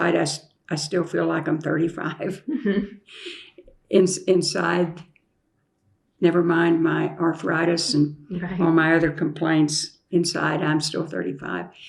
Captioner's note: laughter